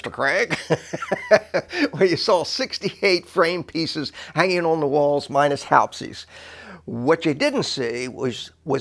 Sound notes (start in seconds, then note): 0.4 laughter